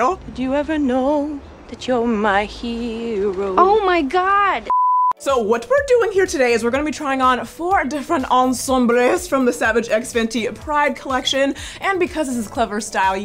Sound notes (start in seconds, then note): 4.6 electronic beeping